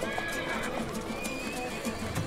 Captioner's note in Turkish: At kişniyor